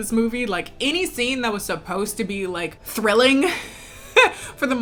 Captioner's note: laughs